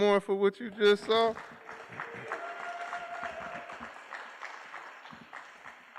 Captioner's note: applause